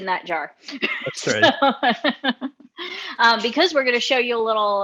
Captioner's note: laughing